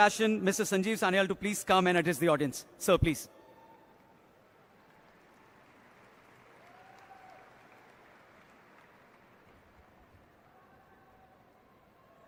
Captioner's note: laughter/Applause